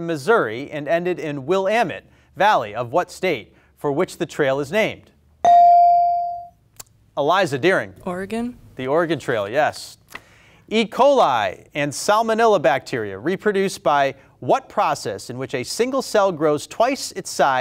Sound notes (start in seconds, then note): 5.4 buzzer pings